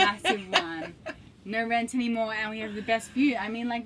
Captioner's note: laughing